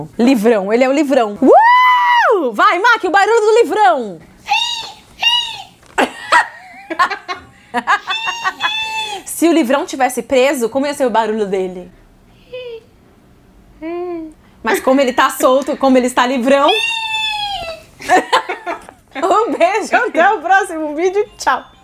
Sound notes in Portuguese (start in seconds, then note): 4.4 risos; 12.5 imita golfinho triste; 16.6 imita golfinho feliz; 18.0 risos